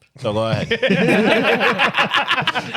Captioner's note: laughing